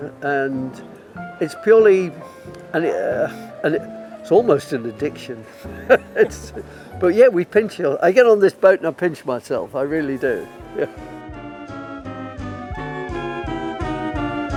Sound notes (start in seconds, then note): 5.5 laughing; 11.2 jazzy music playing